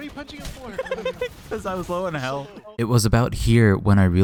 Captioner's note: laughing